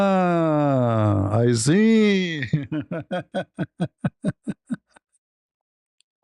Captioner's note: ketawa